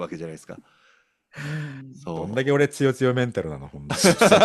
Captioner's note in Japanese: 息をのむ音; 笑い